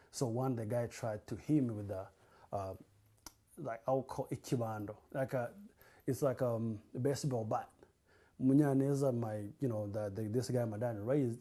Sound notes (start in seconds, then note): 4.7 non-english